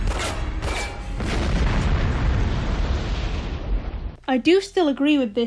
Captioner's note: cat meowing and explosions